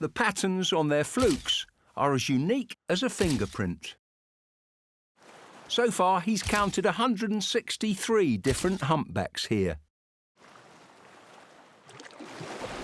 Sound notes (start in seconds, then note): 3.8 camera clicks